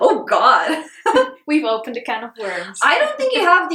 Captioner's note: chuckles